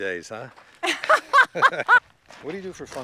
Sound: laughs

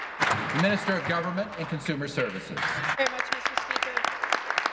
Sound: applause

